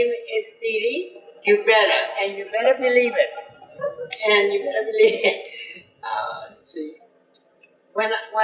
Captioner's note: laughs